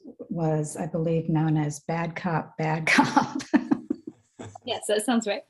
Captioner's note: laughs